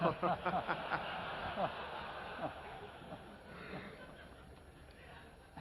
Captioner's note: laughter